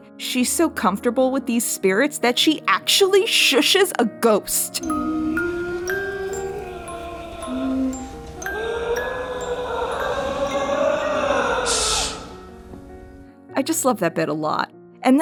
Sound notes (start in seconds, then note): 4.8 Flora humming 'Oh Willow Waly' along with a music box; 8.5 A rasping voice tries to join the humming